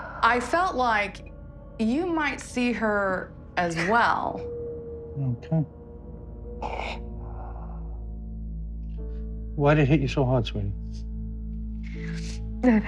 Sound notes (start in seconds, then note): 6.3 sobs